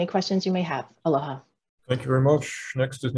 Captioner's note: speaking in foreign language